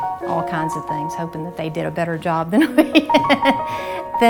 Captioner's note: laughs